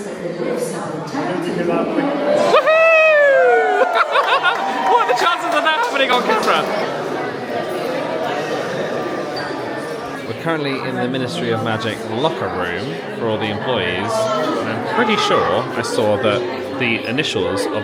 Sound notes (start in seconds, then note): 3.5 laughing